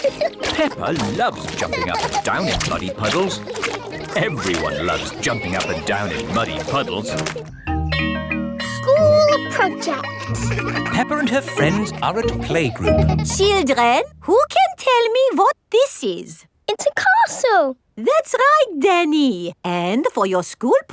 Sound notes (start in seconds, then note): 7.5 school bell rings